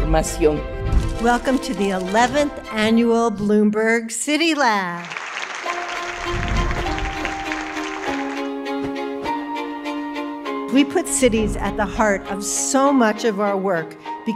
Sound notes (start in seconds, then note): 4.5 audience clapping; 5.0 lively upbeat music; 7.2 text whooshing